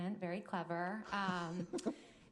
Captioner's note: chuckling